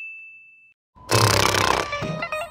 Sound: snoring

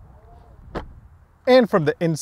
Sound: car door thuds

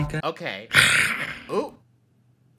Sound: Willy Wonka growls

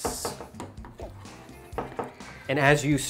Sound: stirring

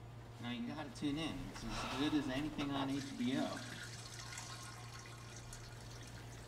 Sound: urinating

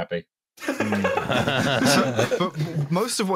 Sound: laughter

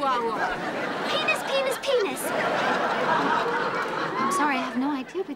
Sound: audience laughing

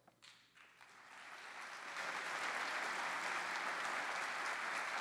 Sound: applause

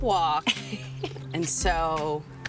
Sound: chuckles

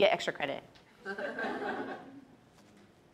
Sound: audience chuckles

